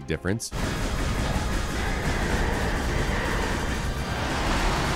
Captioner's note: game sound effects